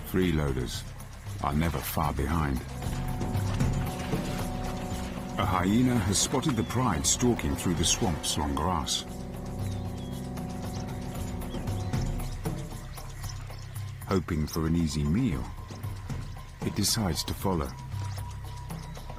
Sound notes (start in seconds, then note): 2.2 river waves crushing; 3.1 dramatic music; 9.3 birds chirping; 9.3 dramatic music; 18.3 birds chirping; 18.3 dramatic music